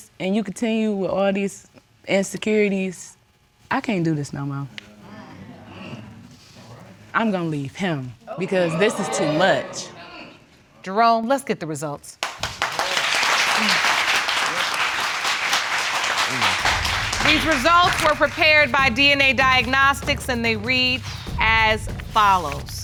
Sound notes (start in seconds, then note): 5.1 audience exclaiming; 12.2 applause